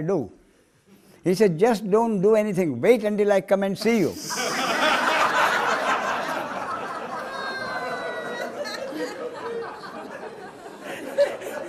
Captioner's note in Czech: smích